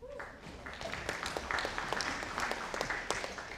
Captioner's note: audience applauding